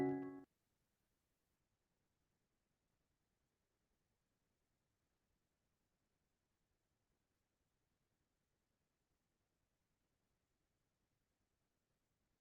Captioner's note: pause